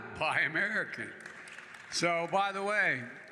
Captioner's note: applause